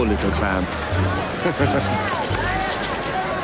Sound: laughs because hilarious

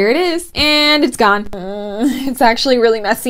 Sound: embarrassed noises

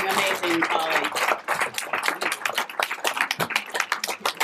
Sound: applause

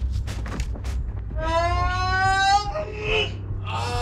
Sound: Micke moans

